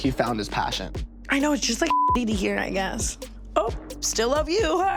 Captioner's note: beep